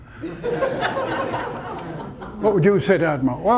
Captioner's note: audience laughter